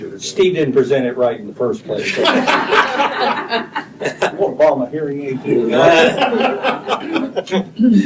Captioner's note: laughter